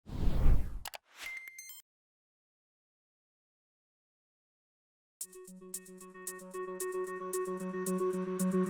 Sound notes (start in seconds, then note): 1.4 beeps; 5.2 light upbeat music